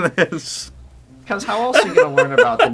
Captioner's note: laughs out of watch boredom